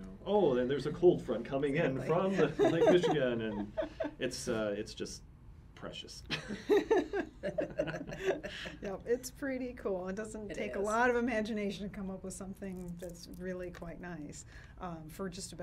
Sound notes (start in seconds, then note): 2.2 laughs; 6.3 laughs